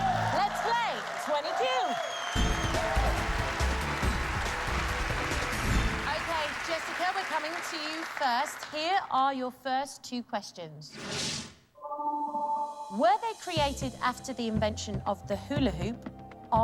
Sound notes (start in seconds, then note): 2.5 cheers and applause